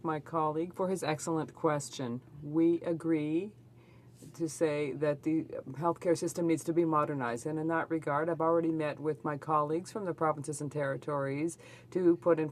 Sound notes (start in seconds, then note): 0.6 speaking French